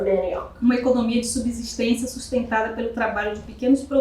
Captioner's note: speaking portuguese